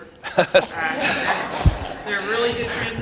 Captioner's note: laughs